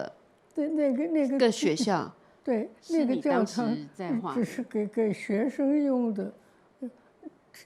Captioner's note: Mandarin; Mandarin